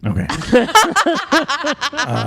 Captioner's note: laugh